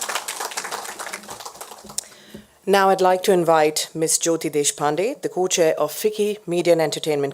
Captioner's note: applause